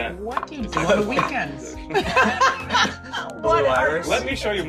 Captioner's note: laughs